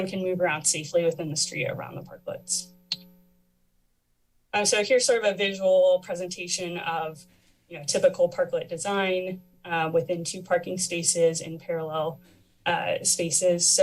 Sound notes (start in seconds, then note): 2.6 pause